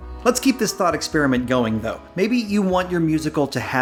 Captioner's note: none